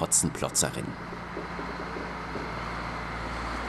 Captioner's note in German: Motorgeräusche